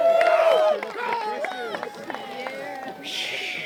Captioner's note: cheering; applause